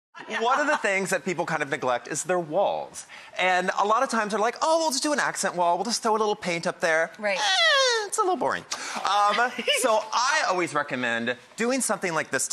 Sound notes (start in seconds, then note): 0.2 laughing; 9.1 giggles